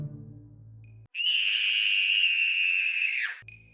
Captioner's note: screaming